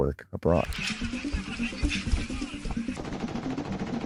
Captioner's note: faintly speaking; gun firing